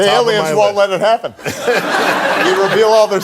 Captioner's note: audience laughing